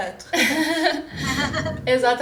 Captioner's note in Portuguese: risos